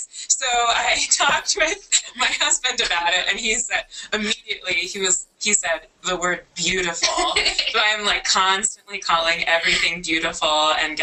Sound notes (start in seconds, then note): 7.0 laughter